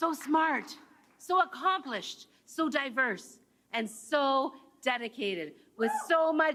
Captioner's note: cheers and Applause